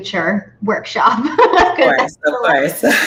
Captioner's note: laughs